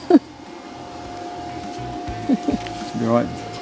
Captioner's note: laughing